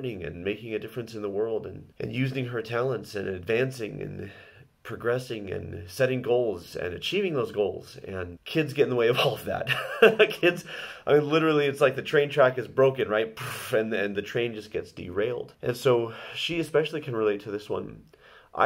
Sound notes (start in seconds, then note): 9.6 laughs